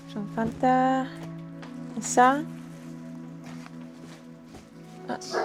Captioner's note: speaking in a foreign language